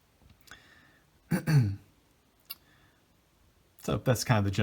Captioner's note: clears throat